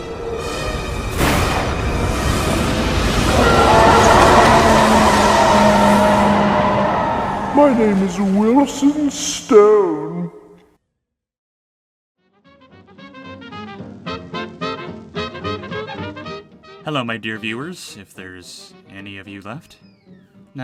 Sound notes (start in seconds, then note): 0.9 lighting Strike; 7.5 echoed